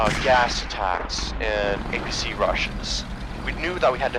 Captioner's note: explosion; apc motor